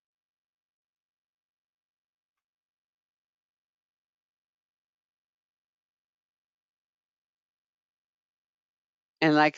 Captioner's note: 8 seconds pause